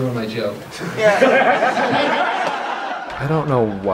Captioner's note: audience laughter